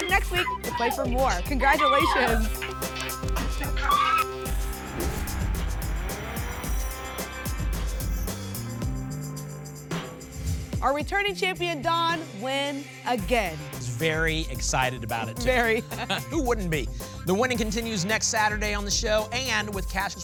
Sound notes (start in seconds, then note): 2.3 applause and cheering; 4.3 whoosh